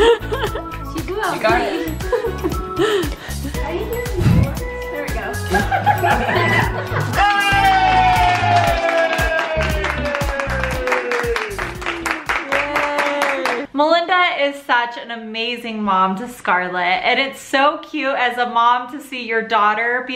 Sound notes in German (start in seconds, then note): 7.1 Jubel